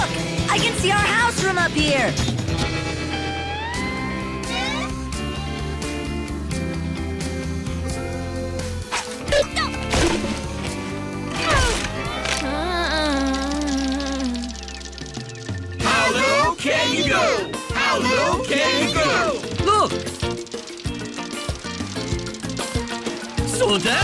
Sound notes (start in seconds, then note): 11.3 groaning